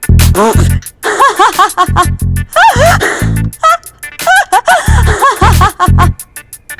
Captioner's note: Devika laughing